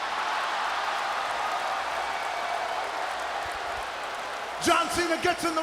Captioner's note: crowd cheering